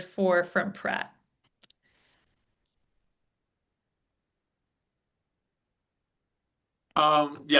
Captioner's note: silence